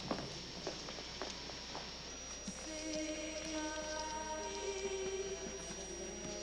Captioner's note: radio